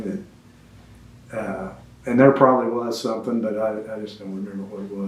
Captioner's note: laughs